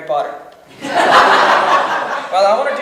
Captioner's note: audience laughs